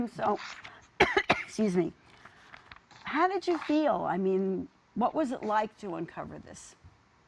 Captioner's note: coughs